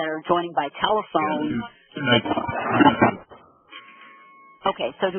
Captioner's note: audio feedback